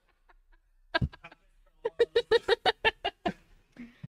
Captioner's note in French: rires